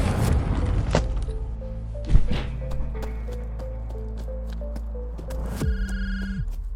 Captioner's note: dramatic music; door rumbles; phone rings